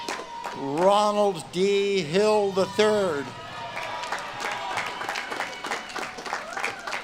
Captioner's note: audience claps and cheers